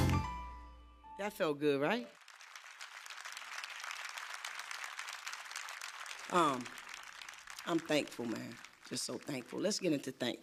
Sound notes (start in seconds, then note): 2.1 crowd applauds